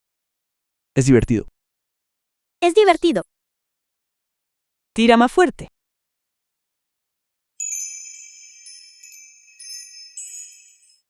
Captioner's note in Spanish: campana